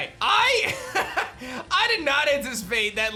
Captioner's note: laughs